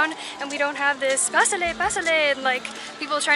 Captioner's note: speaking Spanish